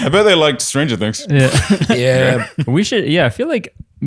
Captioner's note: laughs